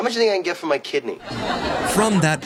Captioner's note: laughing